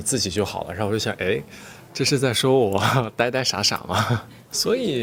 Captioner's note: laughs